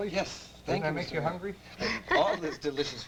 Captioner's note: laughs